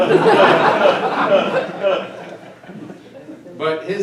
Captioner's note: audience laughing